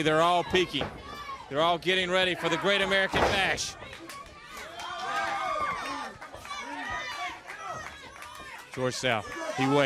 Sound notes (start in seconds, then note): 6.3 crowd cheering; 6.9 crowd chatter